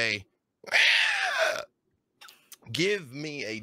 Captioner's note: squeals